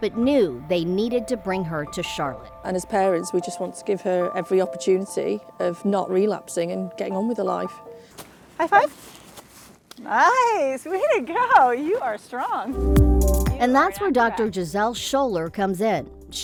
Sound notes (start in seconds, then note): 9.3 hands clap; 12.7 upbeat music